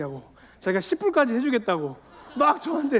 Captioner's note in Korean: 웃음